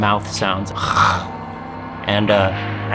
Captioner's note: imitates growling